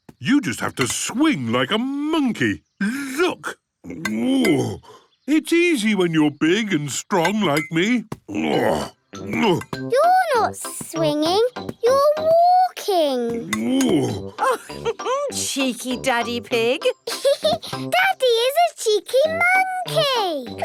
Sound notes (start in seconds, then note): 3.8 grunts; 8.2 grunts; 13.6 laughs; 16.8 laughs